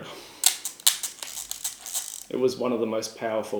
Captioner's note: toy whirring